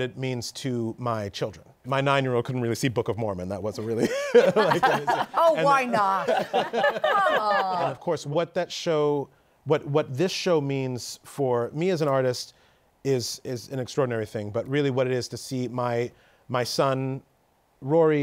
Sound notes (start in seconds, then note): 3.9 laughter